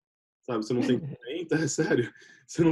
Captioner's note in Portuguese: risos